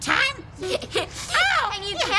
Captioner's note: laughing